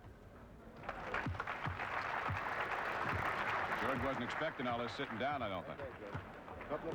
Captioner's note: applause